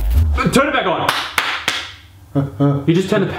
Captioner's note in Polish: klap, klap, klap